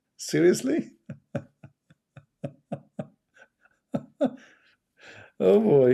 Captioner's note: Ketawa